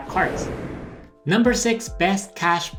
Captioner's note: whooshing